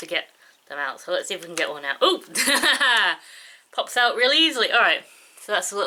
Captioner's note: laughs